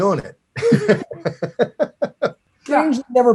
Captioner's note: laughs